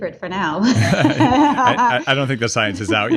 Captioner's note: laughing